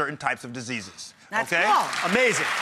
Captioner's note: audience applauds